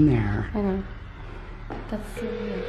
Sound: phone ringing

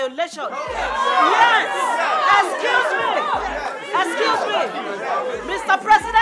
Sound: chatters

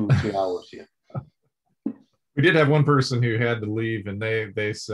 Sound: laughs

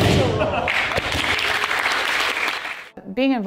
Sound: audience clapping

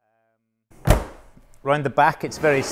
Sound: door slams

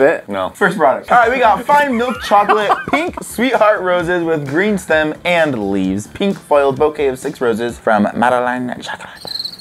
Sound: weird voice; crickets

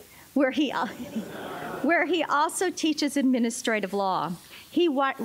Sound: laughter

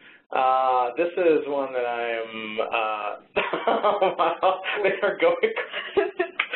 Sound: laughs

